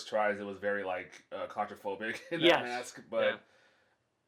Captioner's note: laughs